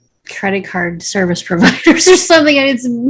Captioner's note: chuckles